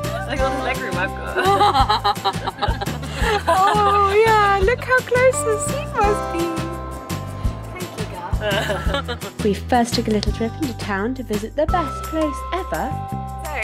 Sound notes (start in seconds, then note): 1.3 laughs